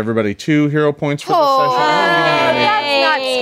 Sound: all groaning

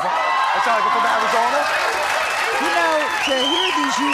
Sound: cheering

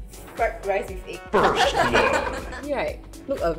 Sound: laughs

